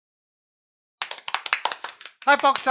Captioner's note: both applauding